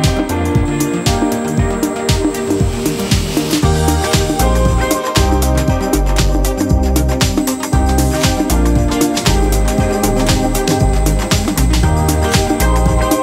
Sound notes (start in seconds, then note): 6.8 machine whirring